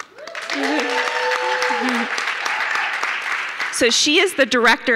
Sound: audience cheering

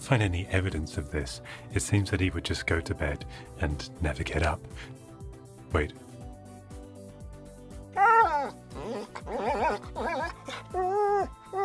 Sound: dog cries

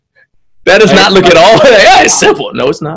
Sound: laughs

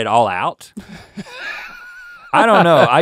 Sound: laughing

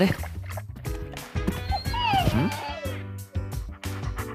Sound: whine

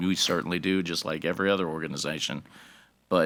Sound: none

